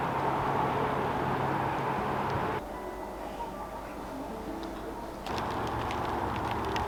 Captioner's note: light rain